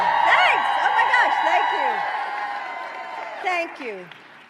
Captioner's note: applause